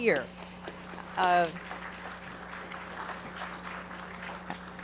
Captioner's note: audience applauding